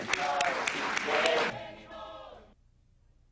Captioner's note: applause